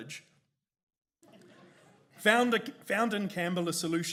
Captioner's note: audience chuckles